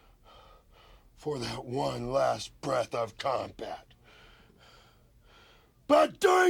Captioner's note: breathes heavily